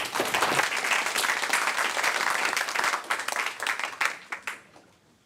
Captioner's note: applause